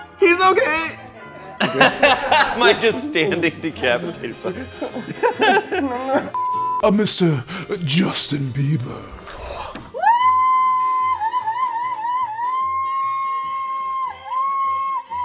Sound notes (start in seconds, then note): 1.4 laughs; 6.3 beep; 10.0 woman cheers